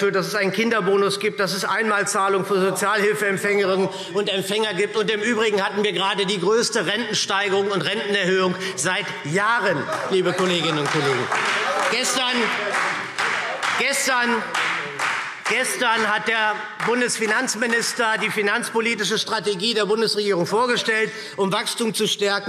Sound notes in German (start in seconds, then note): 11.3 Beifall SPD und Freie Demokraten – Zurufe AfD